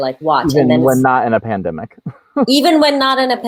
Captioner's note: laughs